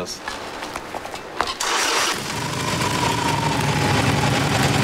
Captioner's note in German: Motorstart